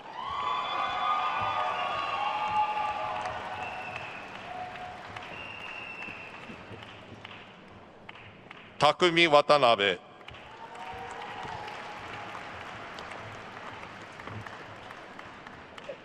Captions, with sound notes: (attendees cheering and applauding) (attendees whistling) Takumi Watanabe. (attendees cheering and applauding)